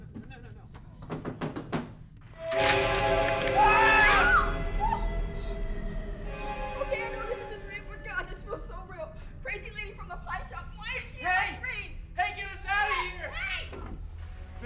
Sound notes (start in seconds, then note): 2.2 man screaming; 2.2 ominous music